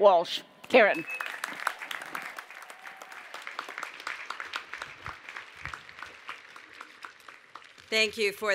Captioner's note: applause